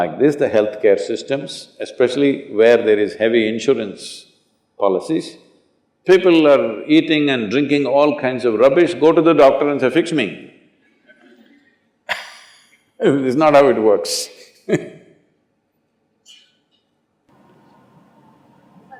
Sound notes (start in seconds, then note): 12.0 few laugh; 17.3 laughs